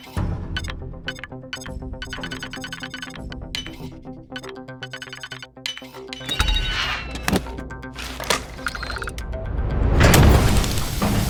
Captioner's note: electronic chirping